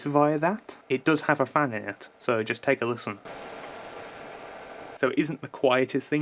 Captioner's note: fan noise